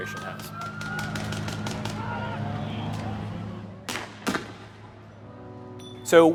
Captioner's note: sirens wailing; tear gas guns firing